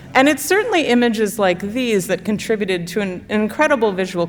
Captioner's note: none